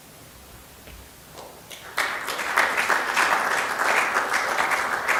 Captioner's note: audience applause